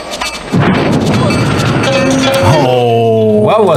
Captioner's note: bomb explodes